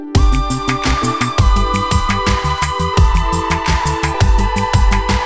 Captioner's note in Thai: ปรบมือ